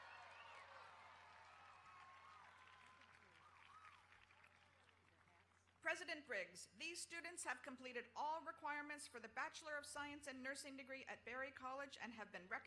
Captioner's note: applause